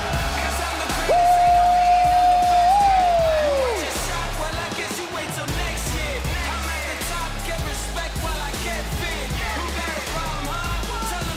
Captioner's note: crowd cheers